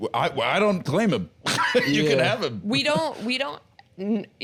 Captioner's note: laughs